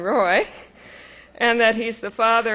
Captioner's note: laughing